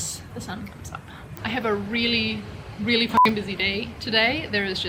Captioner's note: beep